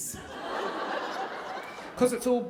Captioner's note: audience laughing